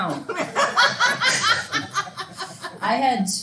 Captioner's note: students laughing